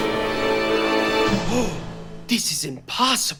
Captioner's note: gasps